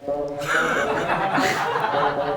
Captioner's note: laughter